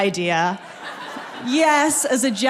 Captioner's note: people laughing